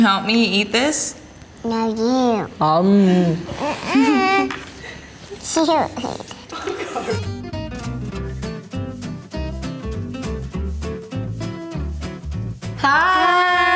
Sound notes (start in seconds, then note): 5.9 laughing; 6.9 upbeat guitar music